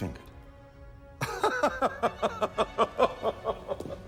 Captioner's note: laughing